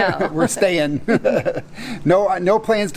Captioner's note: laughs